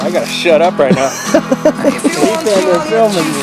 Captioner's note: laughing